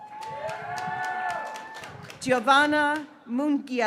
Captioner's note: graduates cheering